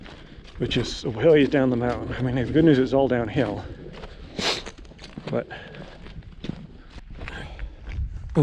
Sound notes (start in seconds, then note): 3.8 footsteps thumping; 4.3 sniffing